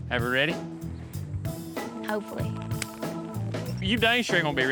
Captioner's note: high-five clap